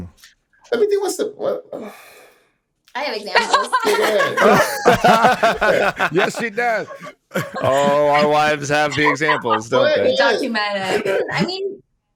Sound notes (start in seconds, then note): 5.8 all laughing